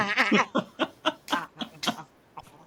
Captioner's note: laughing